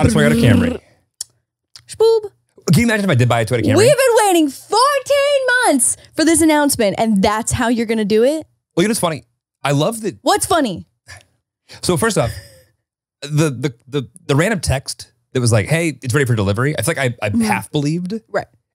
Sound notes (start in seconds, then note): 12.0 laughs